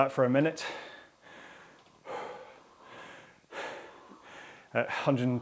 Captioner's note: breathing heavily